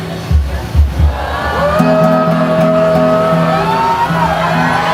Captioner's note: crowd begins to cheer